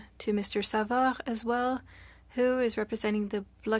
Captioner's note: speaking French